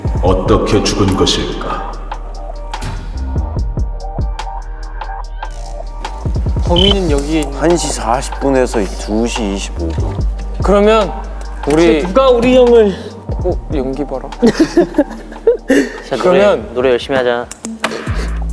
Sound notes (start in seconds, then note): 14.5 sudden controllable laughter